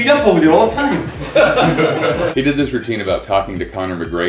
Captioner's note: laughter